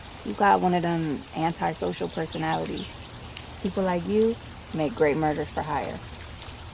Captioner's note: none